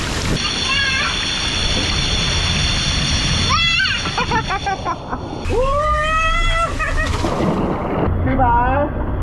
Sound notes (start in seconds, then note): 4.2 laughing